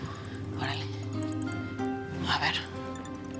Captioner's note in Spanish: Suena el celular